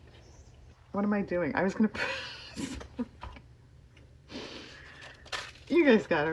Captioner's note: laughs